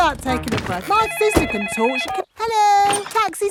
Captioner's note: cellphone ringing